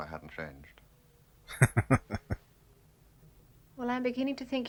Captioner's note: chuckling